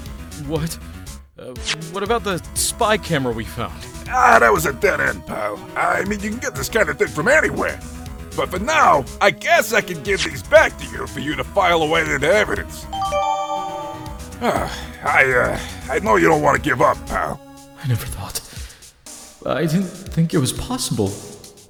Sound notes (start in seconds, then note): 14.3 sigh